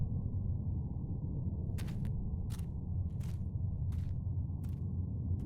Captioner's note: footsteps crunching; wind whistling continues